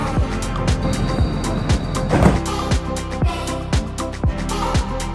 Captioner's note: doors slamming